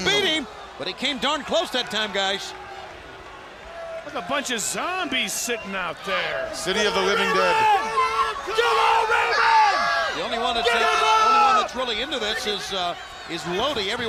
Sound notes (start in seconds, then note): 7.9 crowd cheering